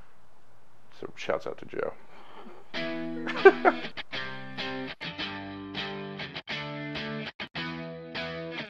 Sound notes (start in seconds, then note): 2.2 chuckles; 2.7 lively guitar music